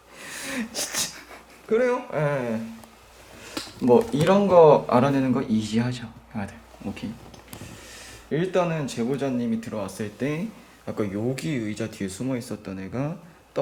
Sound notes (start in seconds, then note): 0.0 laugh; 1.6 resignedly